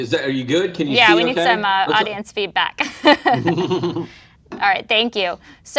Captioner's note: laughs